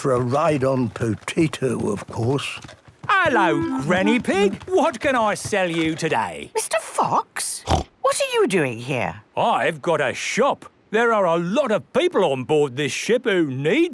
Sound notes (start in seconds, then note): 7.6 snorts